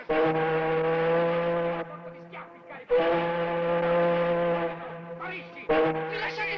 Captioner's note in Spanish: sirena del barco